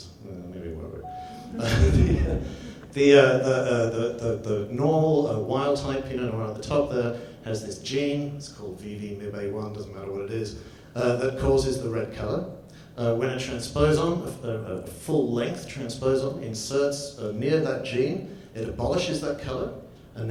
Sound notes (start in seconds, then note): 1.4 audience laughs; 1.5 laughs